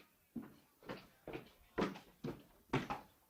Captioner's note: footsteps up stairs